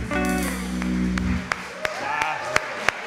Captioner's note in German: applaus